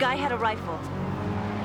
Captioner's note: distant siren blares